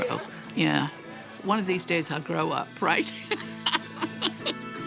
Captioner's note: laughing